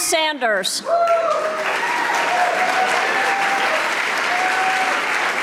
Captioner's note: audience applauding